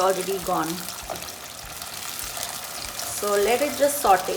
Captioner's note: sizzling